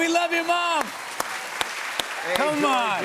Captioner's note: applause